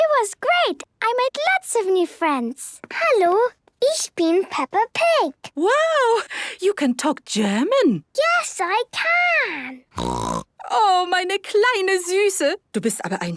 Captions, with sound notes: - It was great! I made lots of new friends. - Hallo. Ich bin Peppa Pig. - Wow! You can talk German. - Yes, I can! (snorting) (speaking German)